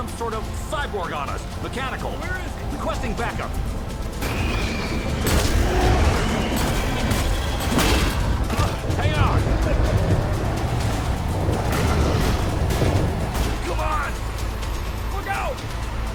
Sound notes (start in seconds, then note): 4.2 gun banging; 4.2 creature roaring; 10.3 dramatic music